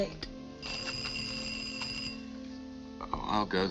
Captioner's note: bell ringing